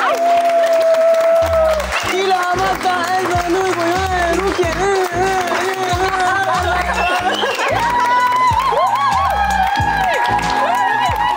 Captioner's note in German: Applaus